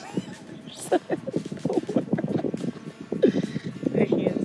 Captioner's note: laughing